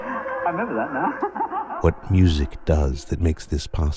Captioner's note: laughs